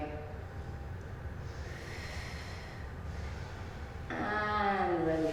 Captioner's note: breathing in and out